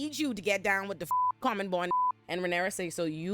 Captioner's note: beep